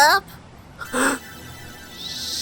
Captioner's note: internal gasp